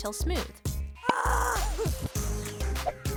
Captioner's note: screaming